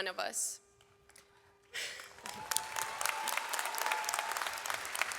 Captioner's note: audience applauds